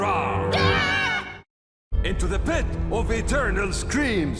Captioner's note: both screaming